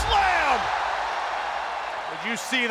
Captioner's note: audience cheers